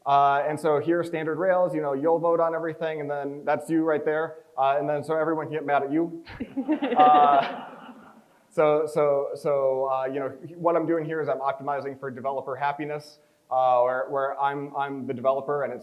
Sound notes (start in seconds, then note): 6.4 crowd chuckles